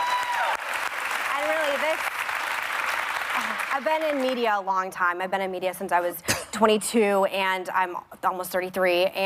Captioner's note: applause